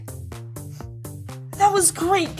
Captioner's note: sniffing